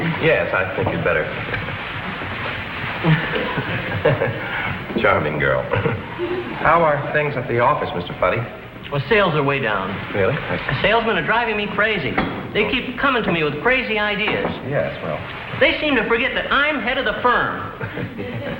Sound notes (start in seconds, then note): 1.4 chuckles